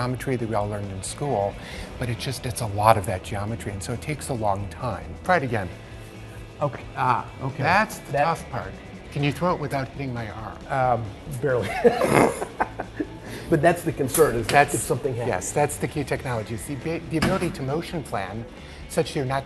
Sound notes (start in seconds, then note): 11.6 laughs